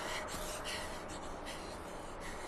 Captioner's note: Esther panting